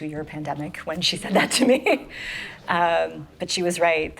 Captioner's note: chuckling